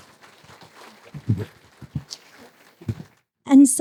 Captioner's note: applause